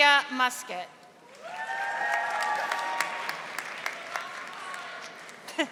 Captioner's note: audience applauding